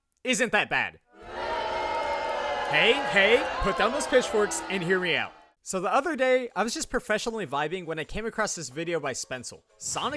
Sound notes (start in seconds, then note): 1.1 crowd boos